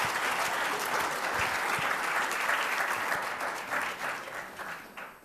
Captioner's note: applause